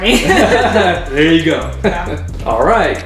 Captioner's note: laughter